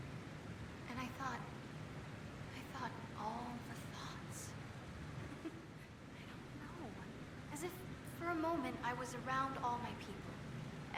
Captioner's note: giggles